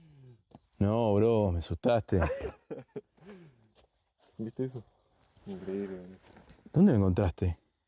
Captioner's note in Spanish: risas